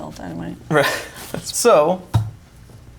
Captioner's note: chuckles